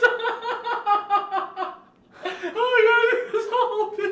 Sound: laughing

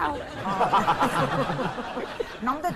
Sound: laughing

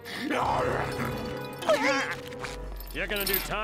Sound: gasping; growling

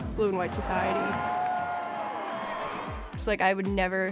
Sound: crowd cheering

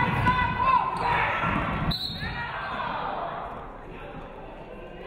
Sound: referee whistles

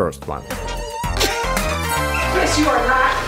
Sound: Gal laughs

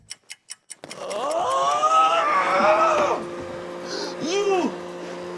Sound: screems

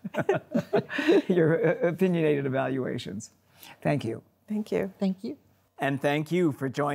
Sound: all chuckling

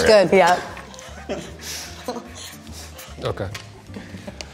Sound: laughing

